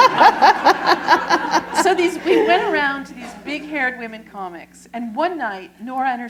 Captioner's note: laughter